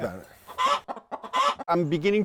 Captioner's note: chicken clucking